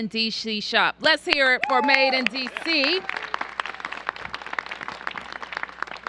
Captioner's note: applause